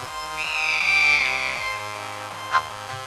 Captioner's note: screeching